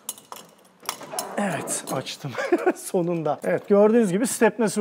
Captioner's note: laughing